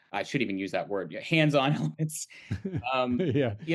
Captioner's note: both chuckle